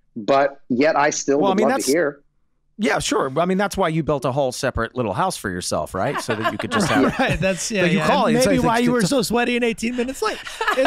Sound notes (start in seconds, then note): 6.1 Meg laughing